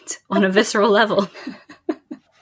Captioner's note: laughs